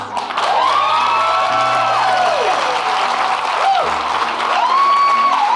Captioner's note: audience clapping and cheering